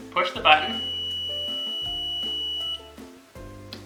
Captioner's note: stud finder beeping